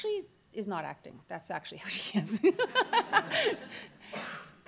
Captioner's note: laughs